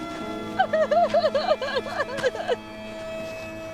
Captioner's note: sobs